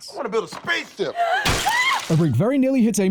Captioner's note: gasp of lego horror